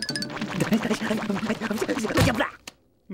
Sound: panting

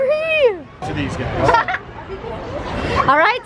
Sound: laughing

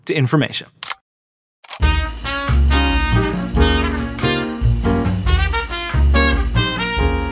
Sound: camera clicking; upbeat music

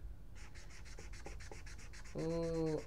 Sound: satisfying marker strokes

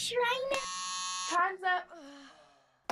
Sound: buzzer noise

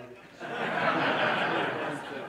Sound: audience laughing

